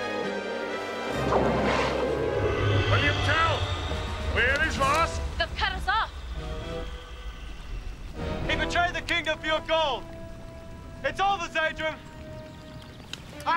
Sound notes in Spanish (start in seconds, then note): 0.3 viento silbando; 1.1 polvo mágico explotando